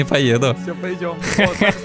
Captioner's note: laughter